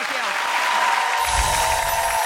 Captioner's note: audience applauding